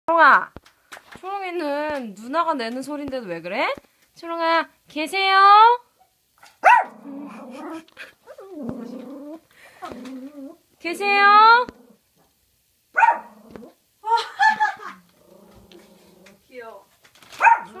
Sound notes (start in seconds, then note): 6.4 barking at the front door; 12.9 bark!